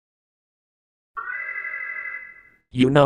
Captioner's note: alarm